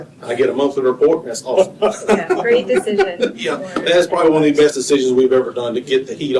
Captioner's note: laughter